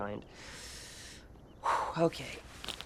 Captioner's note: Nigel exhales